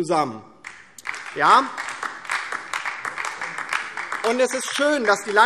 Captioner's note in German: Beifall DIE LINKE